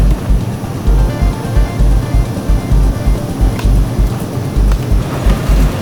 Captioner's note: ominous action music; tow truck winch whirring